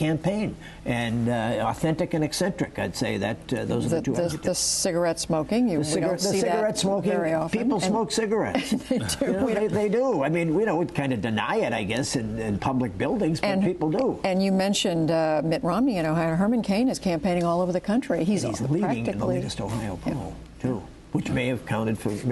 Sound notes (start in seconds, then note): 8.5 laughter